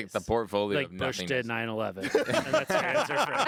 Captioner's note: group laughing